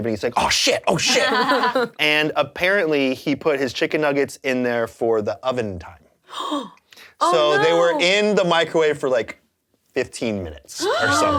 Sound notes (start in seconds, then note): 6.3 gasps